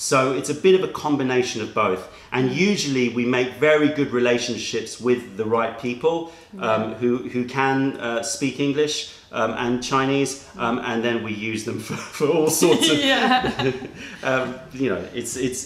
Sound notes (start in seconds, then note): 12.5 laughter